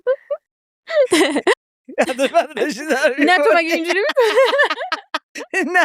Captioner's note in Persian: خنده